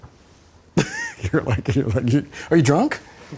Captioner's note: laughing